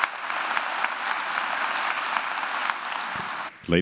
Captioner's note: applause